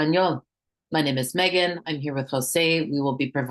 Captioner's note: hablando inglés